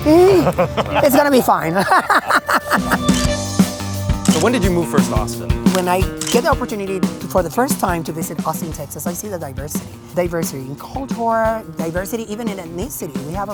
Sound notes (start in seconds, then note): 0.0 laughing; 3.1 light music; 4.2 camera clicking